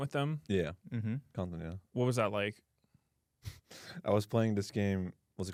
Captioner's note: sighs